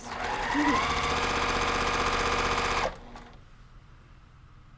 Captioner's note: sewing machine roaring